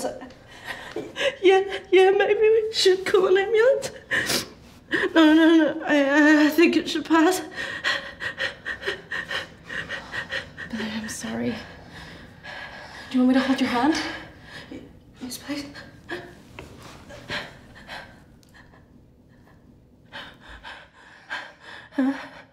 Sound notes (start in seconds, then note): 7.5 B's breathes rapidly; 15.7 whispered